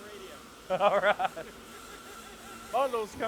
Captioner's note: laughter